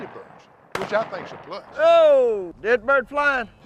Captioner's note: gun shots